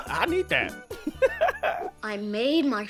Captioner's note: laugh; laughs